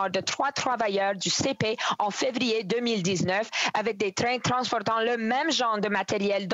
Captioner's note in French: voix de l'interprète